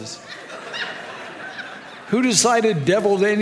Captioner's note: audience laughs